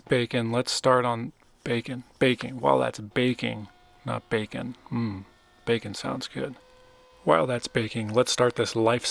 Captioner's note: mmm